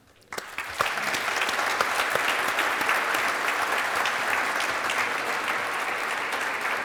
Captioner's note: audience clapping